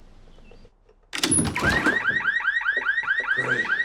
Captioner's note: alarm blaring